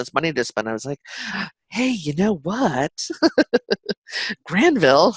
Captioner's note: chuckles